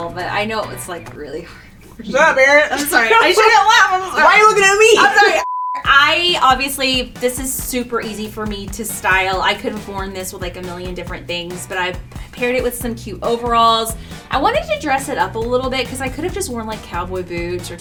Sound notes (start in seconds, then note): 5.4 beep